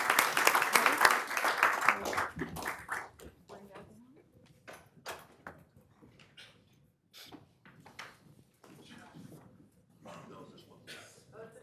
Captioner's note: applause